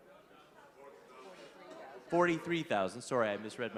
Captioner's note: overlapping chatter